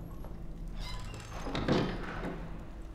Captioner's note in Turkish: Kapı kapanma sesi